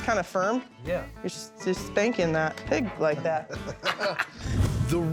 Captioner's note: laughs